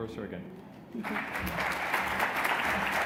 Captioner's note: applause